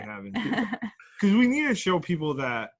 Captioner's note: laughter